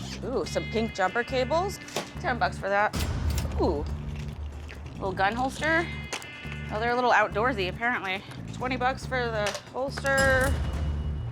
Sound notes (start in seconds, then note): 2.6 cash register dings; 9.8 cash register dings